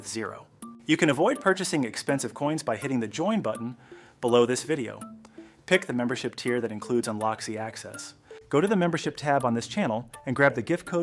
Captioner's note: speak with a clear and informative tone